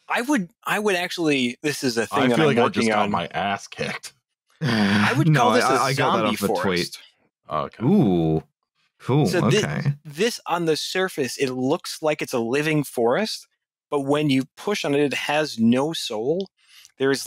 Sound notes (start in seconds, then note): 4.6 laughs